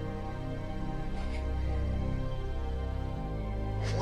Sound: sobbing

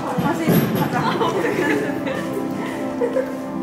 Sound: failing not to laugh

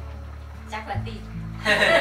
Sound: laughing

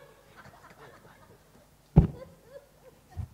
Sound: laughter

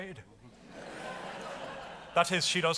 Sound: audience laughs

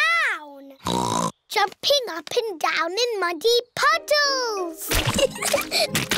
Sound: oinks; both giggling

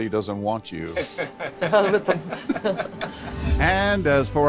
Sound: laughing

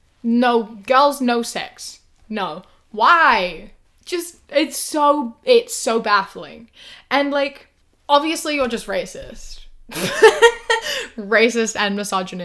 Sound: laughs

